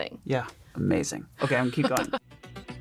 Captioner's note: chuckles; hypnotizing music